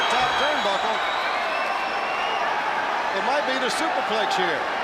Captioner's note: crowd chatter